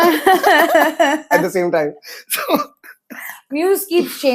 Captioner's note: laughs